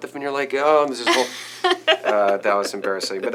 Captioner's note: laughing